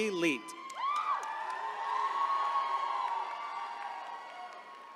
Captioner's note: attendees cheering